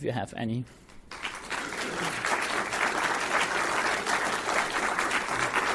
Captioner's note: audience applauds